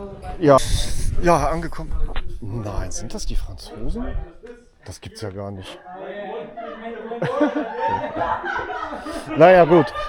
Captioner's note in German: gelächter